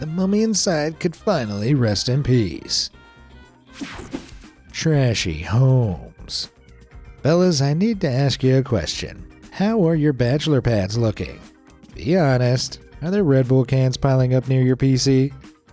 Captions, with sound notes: the mummy inside could finally rest in peace. [swishing] Trashy Homes Fellas, I need to ask you a question; how are your bachelor pads looking? Be honest; are there red bull cans piling up near your PC?